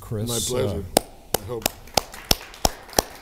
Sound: applause

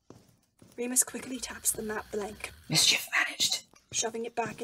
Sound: footsteps on the stairs

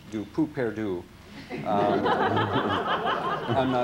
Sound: laughter

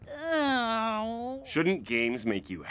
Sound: groans

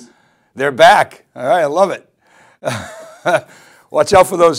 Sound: laughs

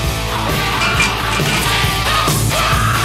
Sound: metal gate opens

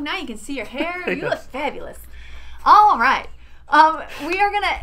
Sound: laughing

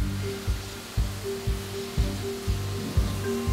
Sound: spraying

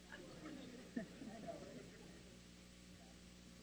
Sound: crowd murmurs

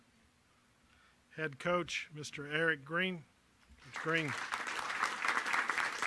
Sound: applause

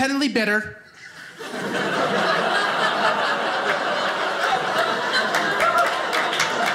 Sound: audience laughing

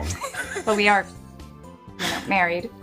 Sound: laughs

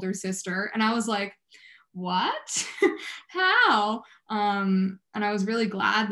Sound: chuckles

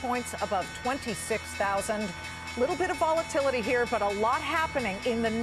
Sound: closing bell rings

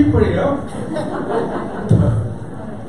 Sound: audience laughter

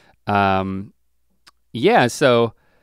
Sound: none

